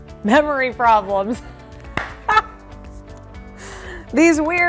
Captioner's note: laughter